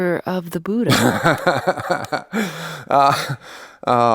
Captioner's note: laughs